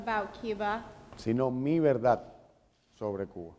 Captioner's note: speaking in Spanish